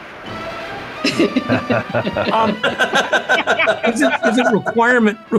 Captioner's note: laugh